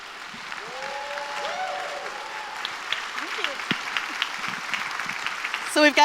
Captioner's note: applause